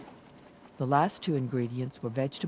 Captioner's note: voiceover